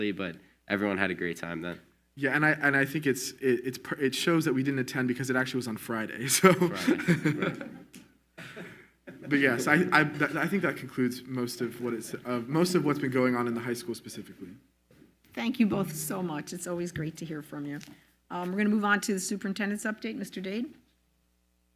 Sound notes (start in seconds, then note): 6.5 laughs